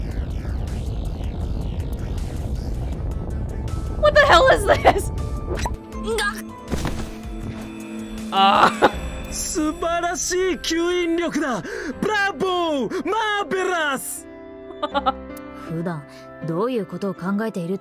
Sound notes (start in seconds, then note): 3.6 chuckles; 14.7 chuckles